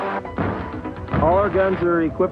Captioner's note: engine revving; explosion booming